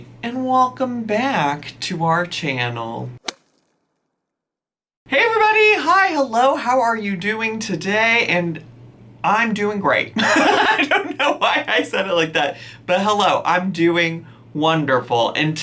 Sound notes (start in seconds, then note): 10.3 laughs